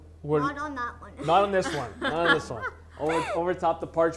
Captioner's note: laughs